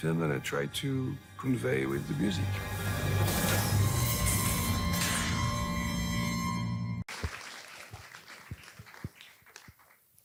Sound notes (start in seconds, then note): 3.0 electric explosion; 6.1 suspenseful music ends; 7.0 audience applause